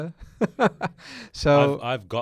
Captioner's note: laughs